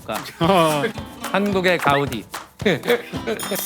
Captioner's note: applauding like a seal